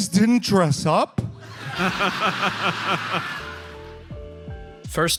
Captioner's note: audience laughs